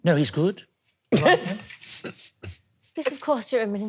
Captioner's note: laughing